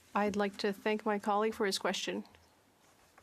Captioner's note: speaking French